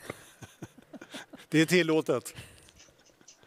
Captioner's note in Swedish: Skratt